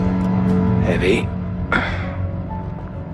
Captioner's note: grunt